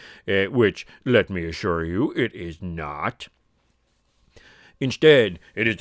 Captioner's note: none